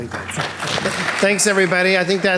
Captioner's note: audience applauding